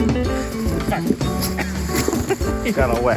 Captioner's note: mellow music; groans